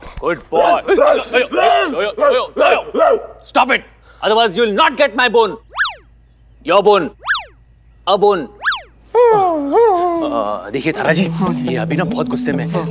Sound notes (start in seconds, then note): 2.1 Barking; 9.2 Whimpering